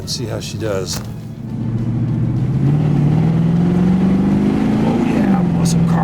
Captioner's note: engine roaring